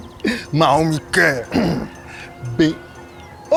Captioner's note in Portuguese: grunhe